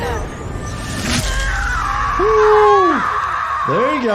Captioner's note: woman screaming